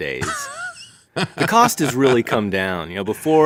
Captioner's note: laughing